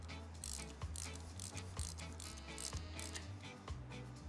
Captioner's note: wrench ratcheting